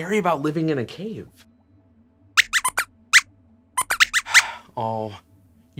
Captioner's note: squeaks squeaks